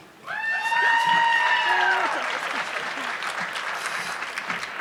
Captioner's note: audience clapping